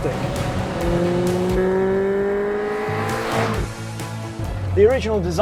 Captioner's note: engine screaming